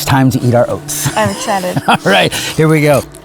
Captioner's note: chuckles